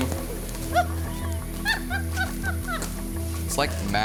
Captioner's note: laughing